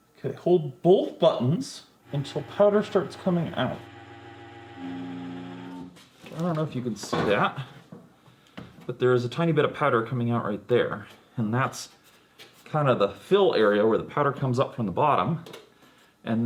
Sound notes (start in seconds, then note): 4.2 engine droning